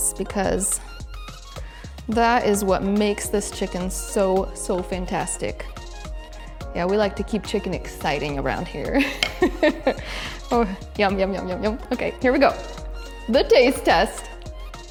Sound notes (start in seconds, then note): 9.0 laughs